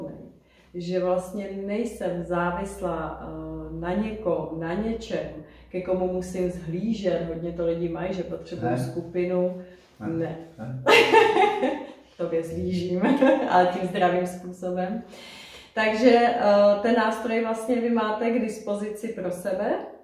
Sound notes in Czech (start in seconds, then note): 8.6 Smích; 12.4 Smích